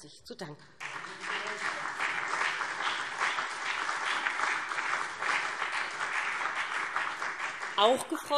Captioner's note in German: Beifall BÜNDNIS 90/DIE GRÜNEN und CDU